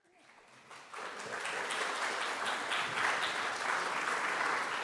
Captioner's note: audience applauding